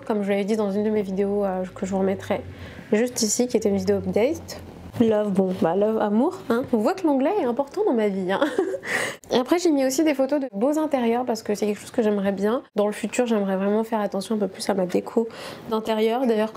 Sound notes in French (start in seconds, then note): 8.4 rires